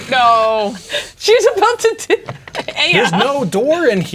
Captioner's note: laughing